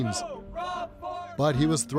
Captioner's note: chanting